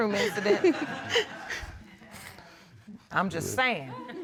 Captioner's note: laughing